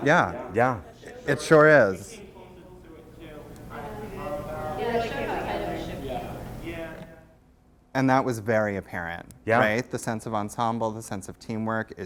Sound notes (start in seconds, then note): 2.1 voiceover; 7.0 voiceover